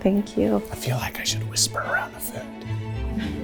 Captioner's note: whispering